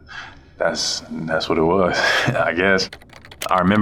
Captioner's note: laughs